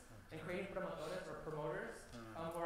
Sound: foreign language spoken

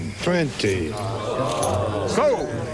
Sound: crowd murmurs

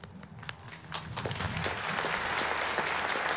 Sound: applause

